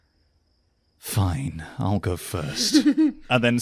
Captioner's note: giggles